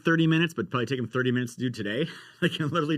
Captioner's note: laughs